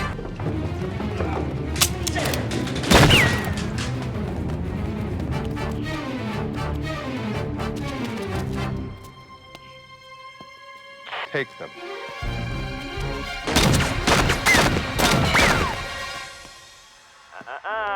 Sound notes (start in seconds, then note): 3.4 guns firing; 6.3 dramatic music; 12.7 dramatic music; 13.5 guns firing; 14.2 dramatic music